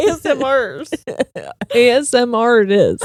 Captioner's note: laughing